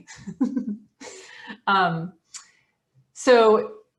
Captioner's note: chuckles